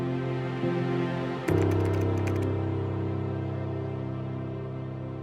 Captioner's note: keyboard taps